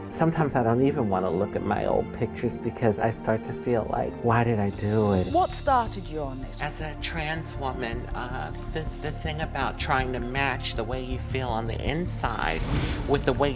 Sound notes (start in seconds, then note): none